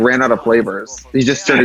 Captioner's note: laughs